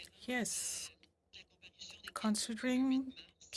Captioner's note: speaking French